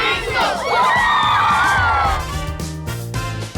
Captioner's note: cheering